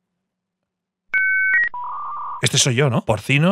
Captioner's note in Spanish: Señal de internet antigua